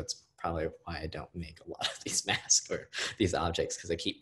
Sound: laughing

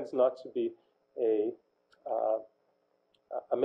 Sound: pause

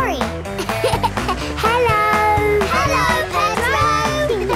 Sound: laughing

